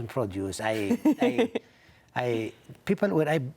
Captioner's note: laughs